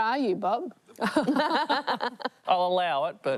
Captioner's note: laughs